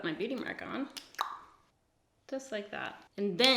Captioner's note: clicks tongue